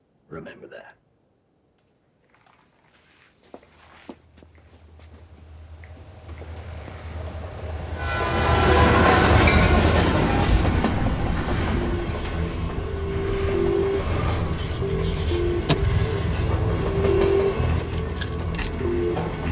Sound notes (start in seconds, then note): 2.2 footsteps; 8.9 train whistle blowing; 17.9 shaking out pills